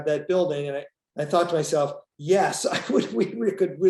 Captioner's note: laughs